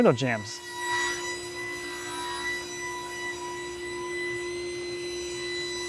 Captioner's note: saw machine whirring sharply